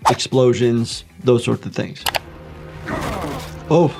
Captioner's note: video clicking; fighter groaning